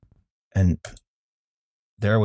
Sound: keyboard tap

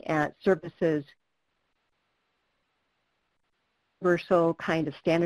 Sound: no audio

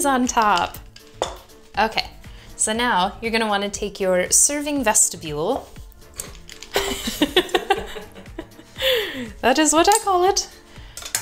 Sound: laughs

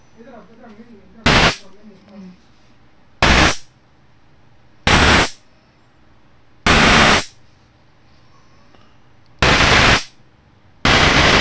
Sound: sound of a lightning bolt

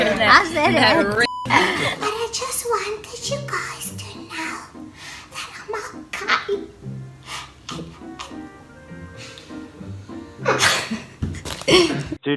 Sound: laughs

